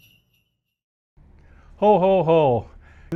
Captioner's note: sleigh bells